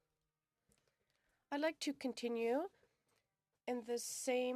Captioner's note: speaking French